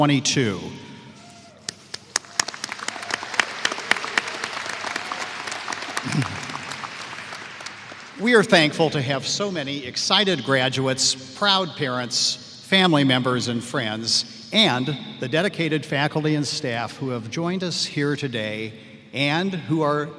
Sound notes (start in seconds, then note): 5.1 applause